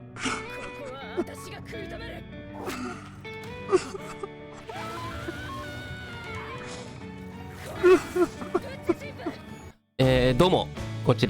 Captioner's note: crying